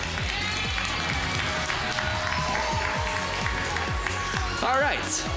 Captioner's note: crowd cheers, applauds